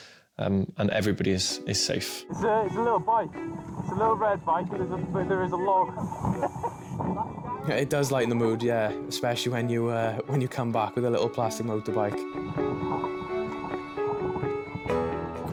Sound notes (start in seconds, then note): 6.6 laughing; 12.7 soft music